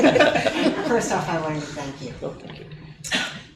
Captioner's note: laughing